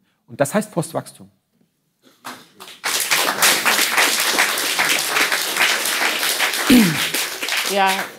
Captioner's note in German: Applaus